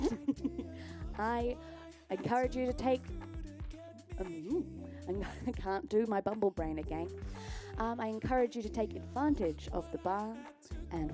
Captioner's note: laughs